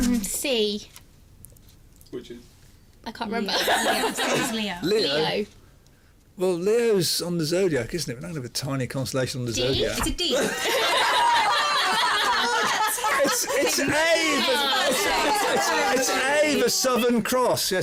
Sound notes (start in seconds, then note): 3.5 laughs; 10.3 laughter